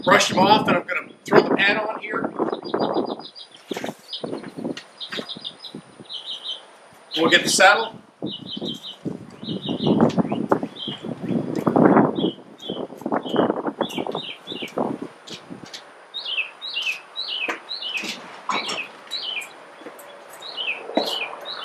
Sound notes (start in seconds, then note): 9.6 birds twittering